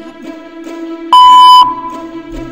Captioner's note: machine beeps